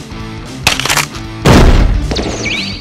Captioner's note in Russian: хрусть